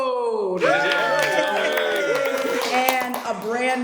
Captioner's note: cheers and applause